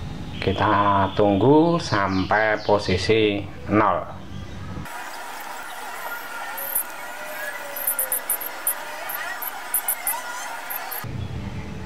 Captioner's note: clap